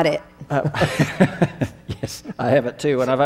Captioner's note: laughing